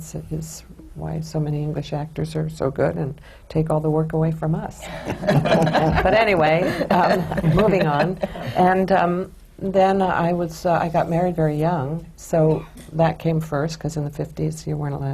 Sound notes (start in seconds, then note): 4.9 laughter